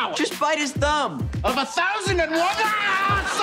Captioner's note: screaming